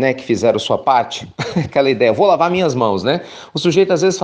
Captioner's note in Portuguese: risos